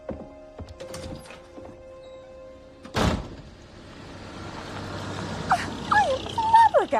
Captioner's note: door opens, closes